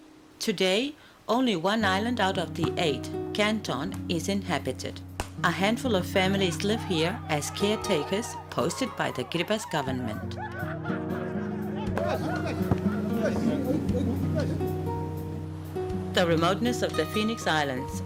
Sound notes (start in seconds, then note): 9.2 laughter